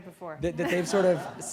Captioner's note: laughter